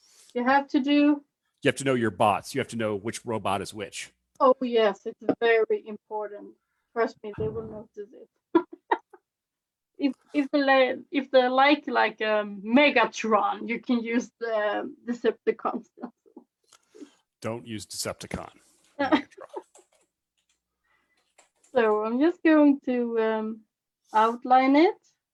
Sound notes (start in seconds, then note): 9.5 laughs